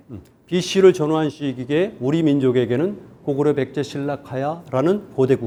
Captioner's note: speaking in Korean